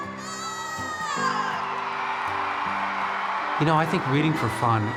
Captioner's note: kids cheering